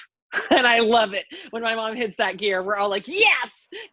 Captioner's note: laughs